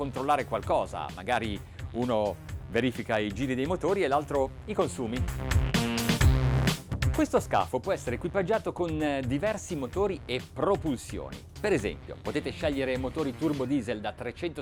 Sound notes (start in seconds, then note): 5.4 electronic music; 7.4 man speaks in foreign language